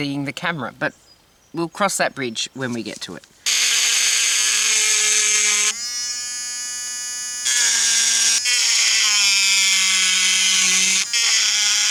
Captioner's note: loud buzzing